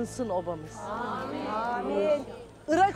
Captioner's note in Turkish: Hep bir ağızdan